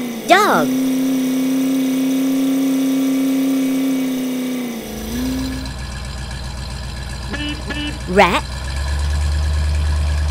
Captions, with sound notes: Narrator> DOG [ engine sound ] [ beep beep ] Narrator> RAT